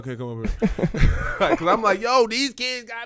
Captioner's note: laughing